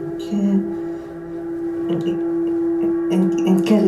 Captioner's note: Sofia stuttering